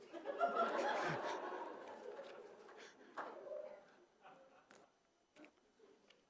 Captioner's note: laughter